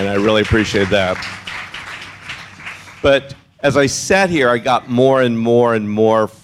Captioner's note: applause